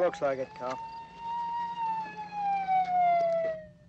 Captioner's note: siren wailing